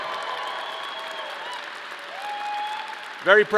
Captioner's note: audience cheering and applause